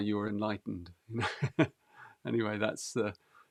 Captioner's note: laughs